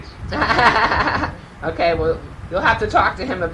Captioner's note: laughing